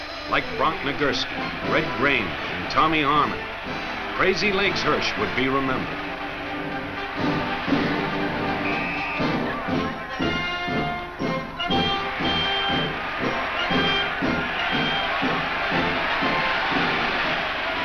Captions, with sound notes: Like Bronk Nagurski, Red Grange and Tommy Harmon, Crazylegs Hirsch would be remembered. (whistle blows) (rousing marching band music)